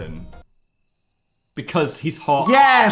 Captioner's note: crickets chirping